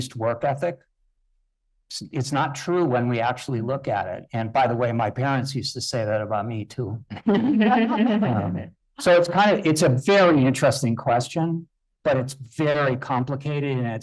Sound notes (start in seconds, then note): 7.1 laughing